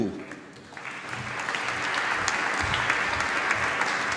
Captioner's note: applause